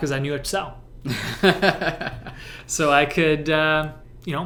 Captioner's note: laughter